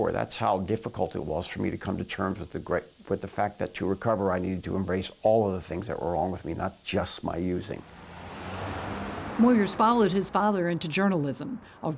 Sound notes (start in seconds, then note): 7.8 traffic whooshing